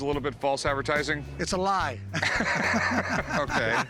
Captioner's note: chuckles